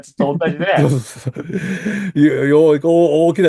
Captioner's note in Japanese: 笑い